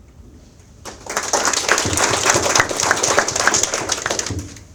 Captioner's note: audience applauds